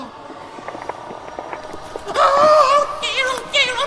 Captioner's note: creaking